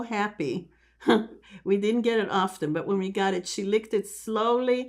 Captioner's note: laughing